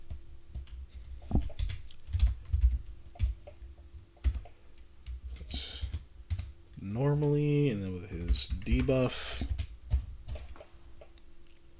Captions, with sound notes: (Typing) That’s normally, and then with his debuff.